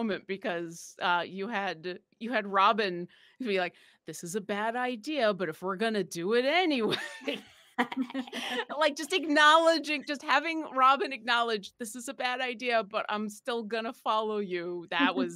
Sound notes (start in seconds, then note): 7.7 laughs